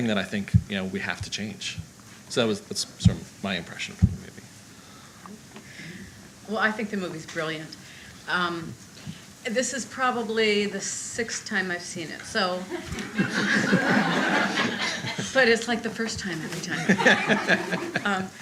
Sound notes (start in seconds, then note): 12.7 audience laughter